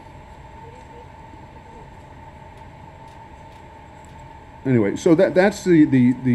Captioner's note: indistinct conversation